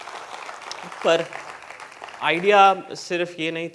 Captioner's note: applause